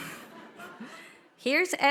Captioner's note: audience laughing